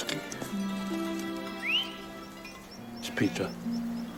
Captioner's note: whistling